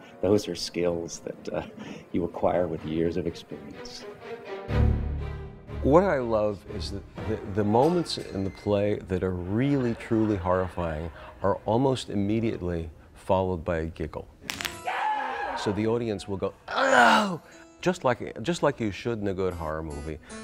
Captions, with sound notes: Those are skills that you acquire with years of experience. What I love is that the moments in the play that are really truly horrifying are almost immediately followed by a giggle. [arm breaking] [scream] So the audience will go, "oh," just like just like you should in a good horror movie.